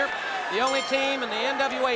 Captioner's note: bell ringing